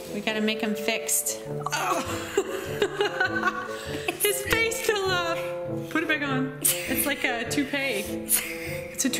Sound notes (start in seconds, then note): 1.8 laughing